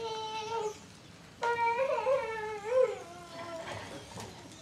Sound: girl crying

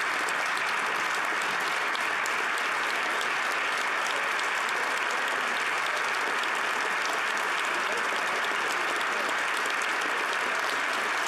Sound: applause

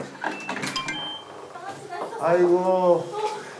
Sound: the door opened up

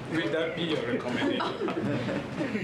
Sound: laughter

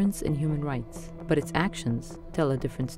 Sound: none

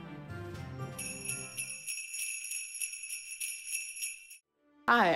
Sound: sleigh bells

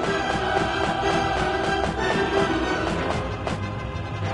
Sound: none

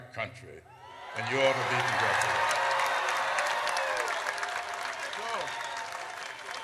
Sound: audience cheers

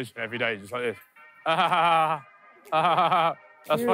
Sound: laughs woodenly

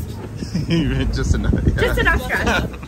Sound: laughing

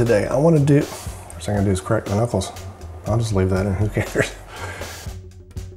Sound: scoff

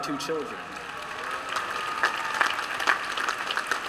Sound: applause

